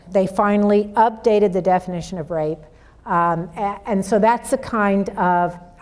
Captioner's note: none